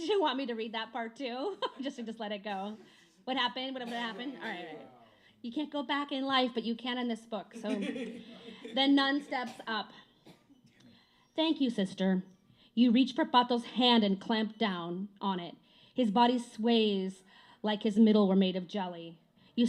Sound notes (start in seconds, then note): 7.5 laughter